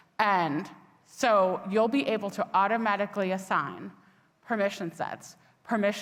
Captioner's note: none